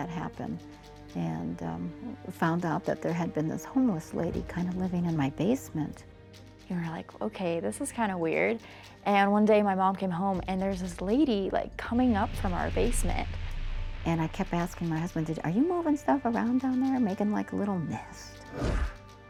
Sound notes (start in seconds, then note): none